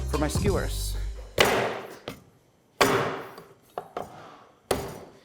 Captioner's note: slamming